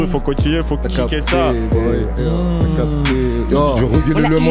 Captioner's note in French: hummmm